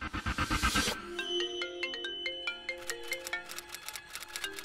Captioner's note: Phone ringing